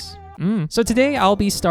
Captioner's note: shrug noise